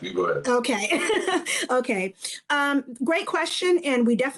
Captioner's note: laughs